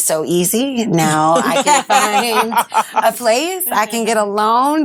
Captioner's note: all laughing